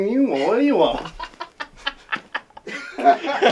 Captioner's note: laughter